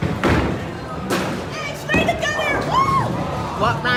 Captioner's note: sarcastically